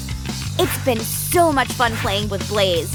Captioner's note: none